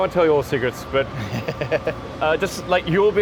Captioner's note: laughs